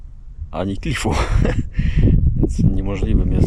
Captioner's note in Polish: śmiech